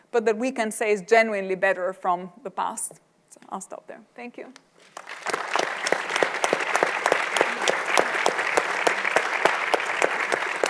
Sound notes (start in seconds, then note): 4.8 audience applauding